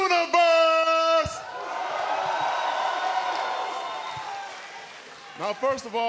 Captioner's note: cheers & applause